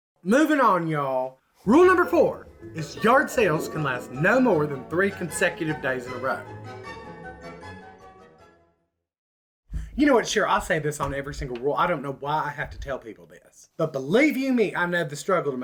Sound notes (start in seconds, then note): none